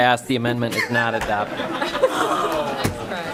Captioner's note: chorus of ayes